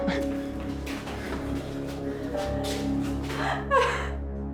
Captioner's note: Whitney sobbing